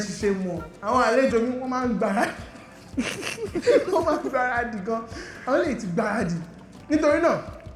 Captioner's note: laughs